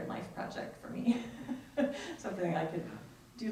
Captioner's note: laughs